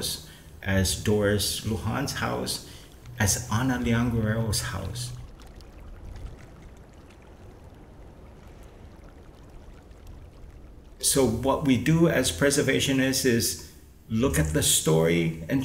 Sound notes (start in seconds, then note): 6.1 water lapping against the rocks; 6.1 wind in trees